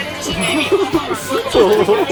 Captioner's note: laughing